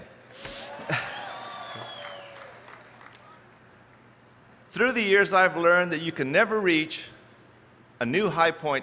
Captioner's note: chuckles